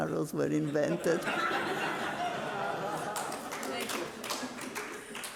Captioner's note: audience laughing